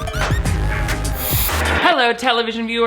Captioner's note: upbeat music; static buzzes